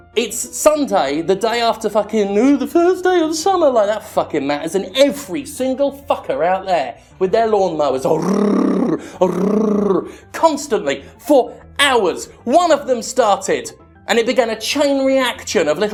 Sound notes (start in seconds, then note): 8.0 growling